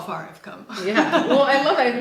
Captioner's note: laughing